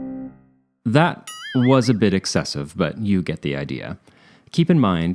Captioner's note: boing